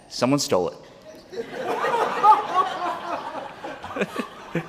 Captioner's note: laughter